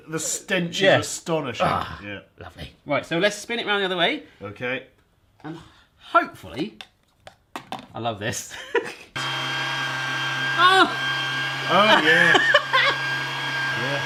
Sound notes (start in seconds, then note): 11.8 laughs